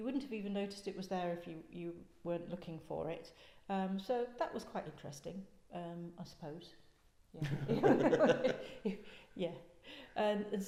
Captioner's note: laughter